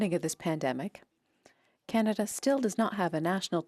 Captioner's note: speaking French